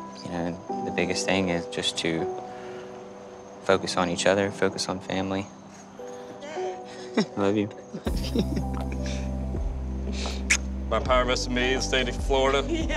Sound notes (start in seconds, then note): 6.9 laughs